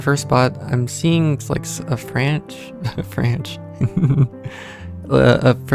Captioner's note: laughter